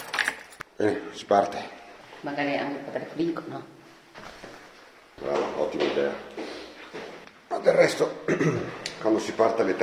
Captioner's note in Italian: schiarire la voce